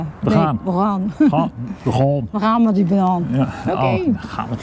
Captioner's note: heavy dialect